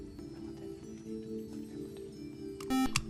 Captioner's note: whispering